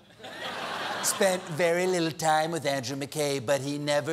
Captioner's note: laughter